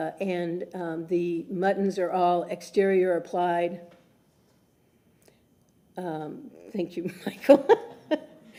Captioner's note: laughter